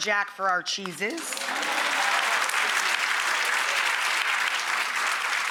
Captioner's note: audience clapping